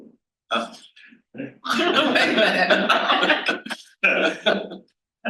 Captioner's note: panel laughs